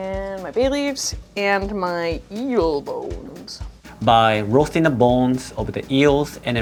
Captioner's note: none